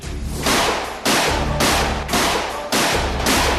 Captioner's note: gunshots blasting